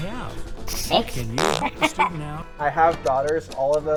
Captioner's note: laughs